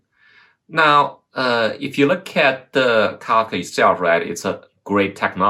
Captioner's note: murmurs